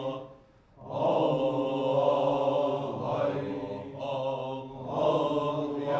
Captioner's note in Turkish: Hep bir ağızdan